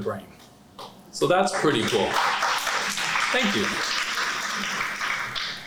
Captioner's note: applause